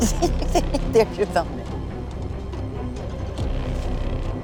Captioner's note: giggles